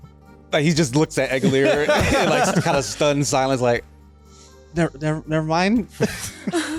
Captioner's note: laughter